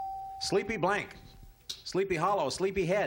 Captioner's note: ding